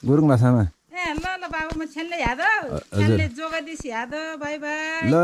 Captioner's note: gurung speech